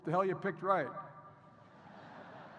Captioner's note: laughter